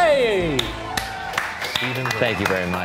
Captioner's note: applauding and cheering